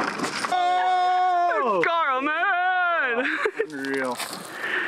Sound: cheers

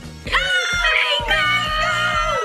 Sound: excited yelling

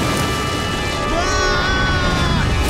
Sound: screaming

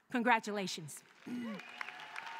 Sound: cheering

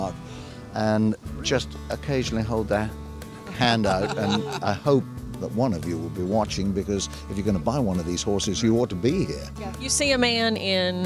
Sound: laughter

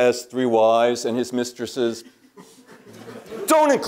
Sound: laugh

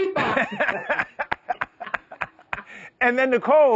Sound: all laugh

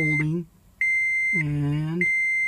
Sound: beeping

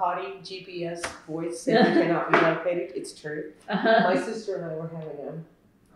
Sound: laughter

